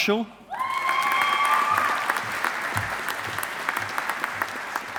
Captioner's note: audience applauding